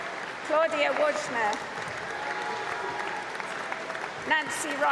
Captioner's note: applause